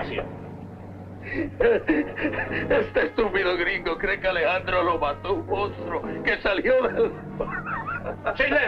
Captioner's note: General Tostada speaking in Spanish; Colonel Cabeza speaking in Spanish; General Tostada speaking in Spanish